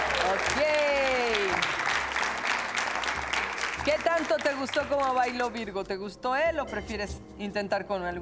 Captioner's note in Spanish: Aplausos